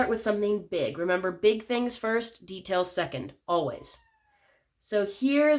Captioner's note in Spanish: Merri maúlla al fondo